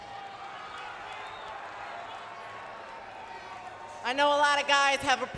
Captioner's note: crowd cheering